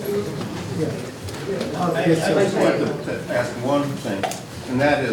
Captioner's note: group chatters